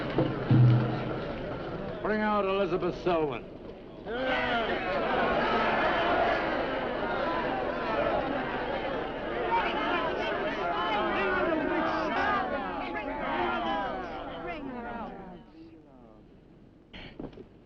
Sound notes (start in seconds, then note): 4.6 crowd; 5.4 crowd yelling